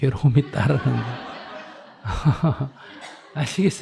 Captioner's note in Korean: 청중 / 스님 웃음